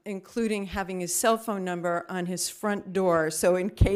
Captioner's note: none